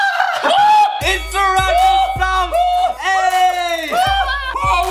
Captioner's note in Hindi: चिल्लाना; डिंग डिंग डिंग; चिल्लाना